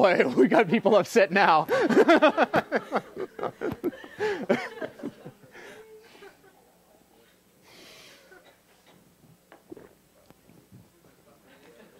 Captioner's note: laugh